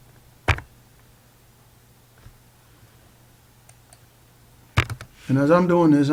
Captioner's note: long Pause